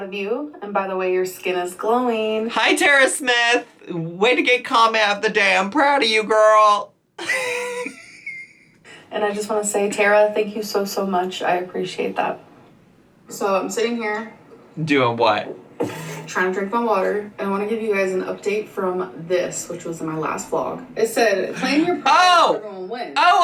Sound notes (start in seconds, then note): 7.2 laughs